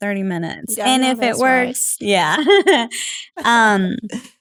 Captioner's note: laugh